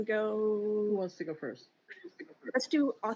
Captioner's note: chuckles